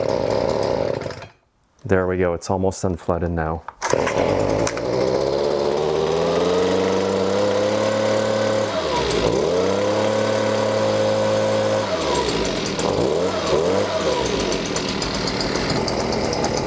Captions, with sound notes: (engine sputtering) There we go it's almost unflooded now. (engine running)